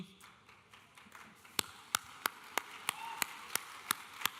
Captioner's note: audience applauding